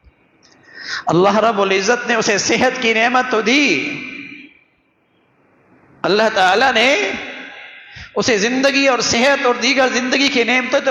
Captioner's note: gasp